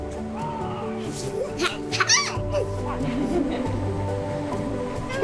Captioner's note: laughter